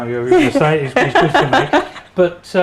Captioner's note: laughing